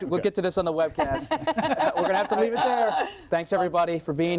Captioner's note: laughter